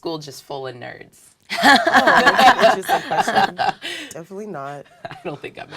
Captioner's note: laugh